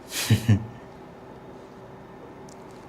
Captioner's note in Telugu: నవ్వు